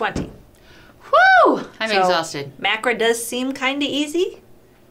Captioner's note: exclaims